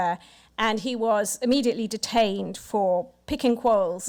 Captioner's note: none